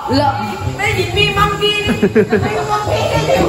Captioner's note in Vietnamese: cười